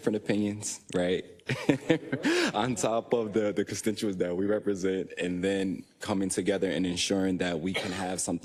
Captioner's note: laugh